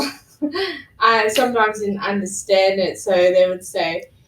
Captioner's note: laughs